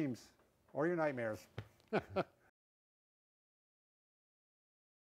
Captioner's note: laughs